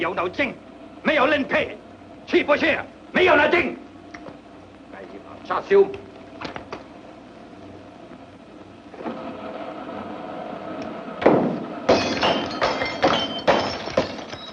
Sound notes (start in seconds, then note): 9.5 radio hums; 11.9 clattering